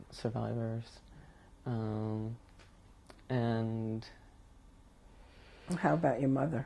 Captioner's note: pauses for 3 seconds